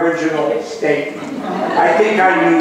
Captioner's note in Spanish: laughs